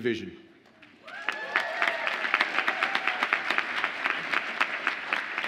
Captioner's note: audience applauds and cheers